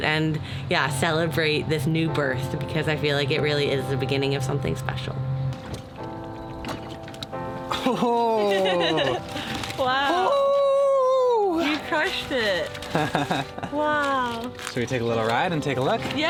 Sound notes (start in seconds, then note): 6.1 emotional piano music; 9.9 whooping; 12.8 laughing